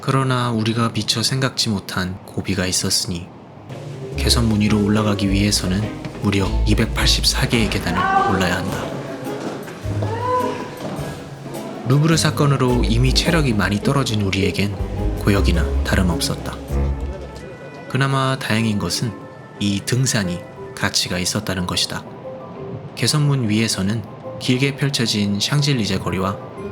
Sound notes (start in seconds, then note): 9.8 sounds of struggling